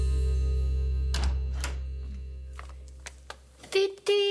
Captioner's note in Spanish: Sonido al abrir la puerta